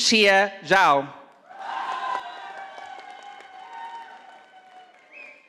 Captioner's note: audience applauding